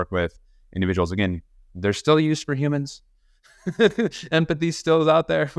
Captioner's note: laughs